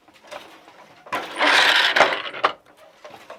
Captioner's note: noise of shuttle moving